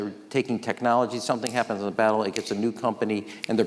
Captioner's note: snaps